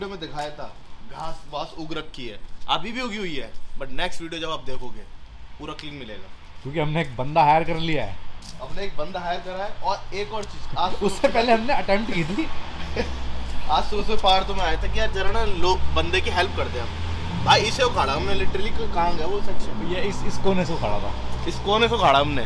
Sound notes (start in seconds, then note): 11.9 audible laughter